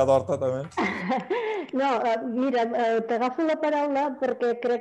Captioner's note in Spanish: risas